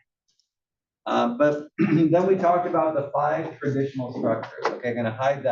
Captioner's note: cough